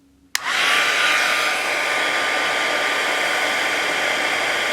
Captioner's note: machine whirring